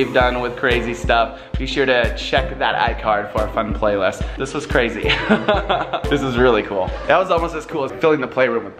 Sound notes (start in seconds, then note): 5.1 laughs